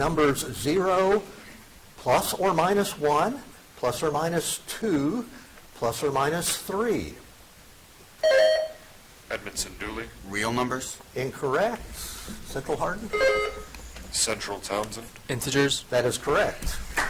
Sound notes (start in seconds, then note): 8.2 buzzer dings; 13.1 buzzer dings; 16.7 audience applauds